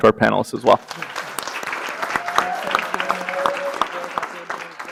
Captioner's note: audience applause